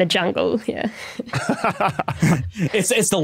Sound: chuckle

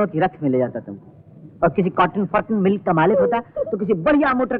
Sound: laughs

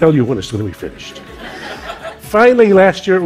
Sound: laughter

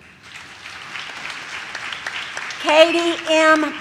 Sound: audience claps

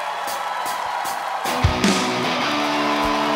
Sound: applause

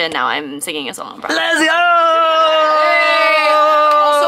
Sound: actors cheering

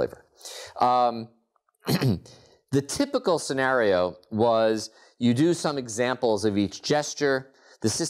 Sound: cough

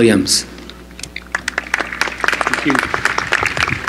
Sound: applause

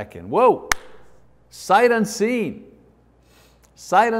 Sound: claps

